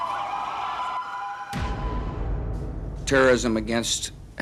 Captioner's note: sirens